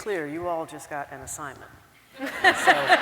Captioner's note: laughter